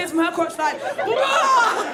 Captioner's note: audience laughing; yells